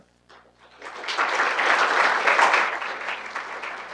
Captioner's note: audience applauding